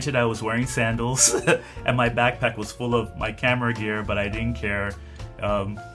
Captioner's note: laughs